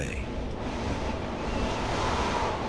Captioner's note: wind howling